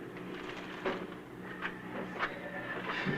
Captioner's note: none